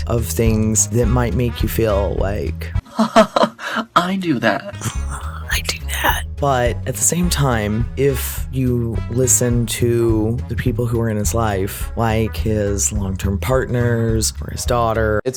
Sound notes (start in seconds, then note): 5.6 whispered